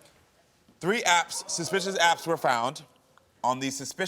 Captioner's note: audience groans